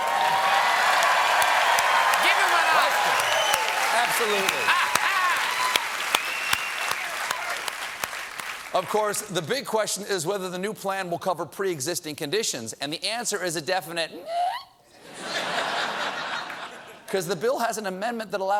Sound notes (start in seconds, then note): 4.1 applause